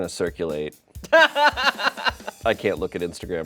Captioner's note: crew laughs